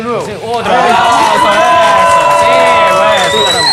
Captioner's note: cheers and applause